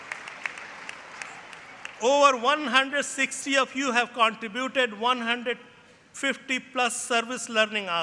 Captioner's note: applause